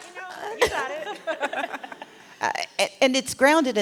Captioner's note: laughter